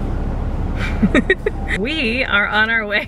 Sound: laughs

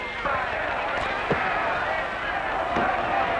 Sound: bell ringing; cheering

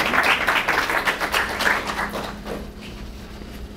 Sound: applause

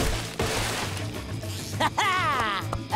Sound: laughing

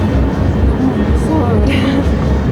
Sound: laughing

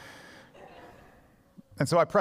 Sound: congregation laughs

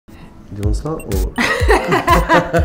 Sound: laughing

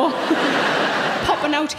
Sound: audience laughing

